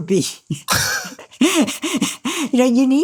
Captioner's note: chuckles